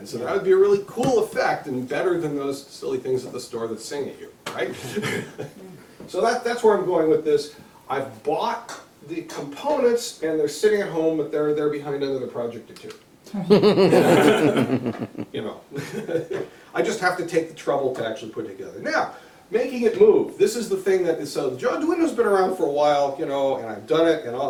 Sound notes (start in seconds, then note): 13.4 laughter